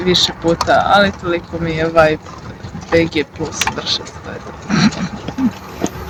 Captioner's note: laughs